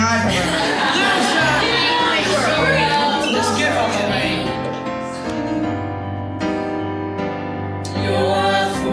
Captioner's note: crowd mocking